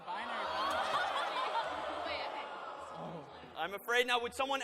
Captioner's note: groaning